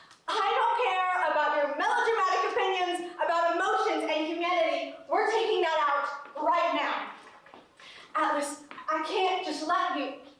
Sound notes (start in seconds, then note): none